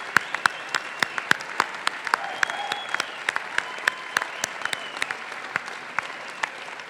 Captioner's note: crowd cheering and clapping continues